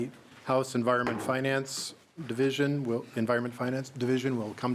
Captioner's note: gavel